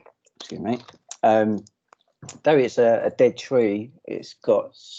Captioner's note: none